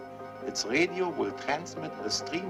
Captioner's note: beeping